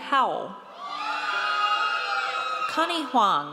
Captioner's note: audience cheers